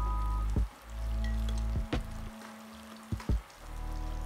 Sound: delicious crackling sounds

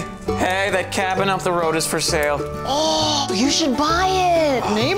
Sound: gasps

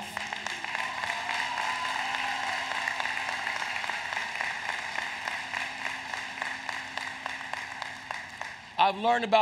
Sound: applause

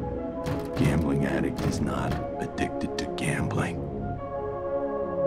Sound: knock on door

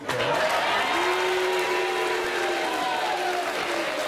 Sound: applauding

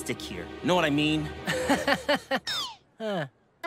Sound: chuckles

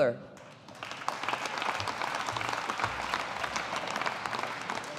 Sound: audience applauding

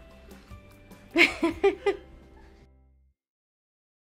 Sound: laughs

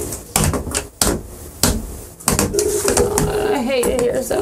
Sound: phone banging

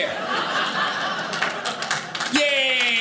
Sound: audience laughing

